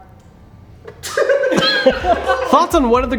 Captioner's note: laughing